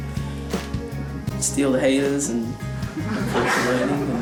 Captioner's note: laughter